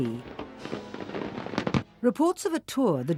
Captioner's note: fireworks crackling